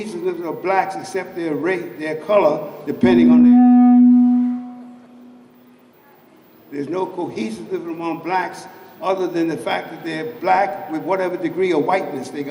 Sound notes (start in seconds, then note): 2.9 microphone hum